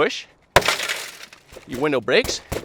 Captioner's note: glass shattering